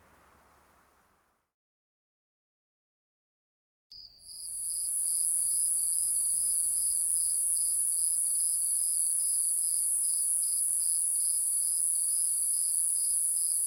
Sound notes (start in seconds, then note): 3.9 sounds of nature and bugs